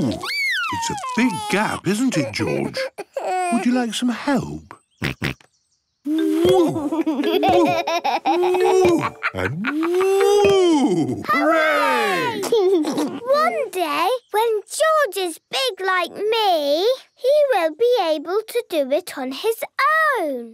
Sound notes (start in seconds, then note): 4.8 snorts; 8.2 laughs; 12.2 laughs